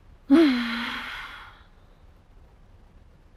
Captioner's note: sighs